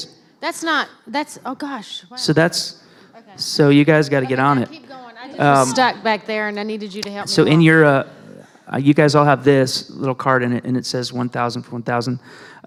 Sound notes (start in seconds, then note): 7.1 laughter